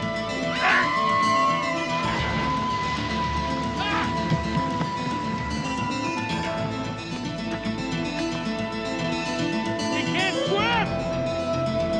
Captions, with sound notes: (Marisa screams) (dramatic music) - She can't swim!